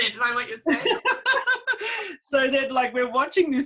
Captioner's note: laughing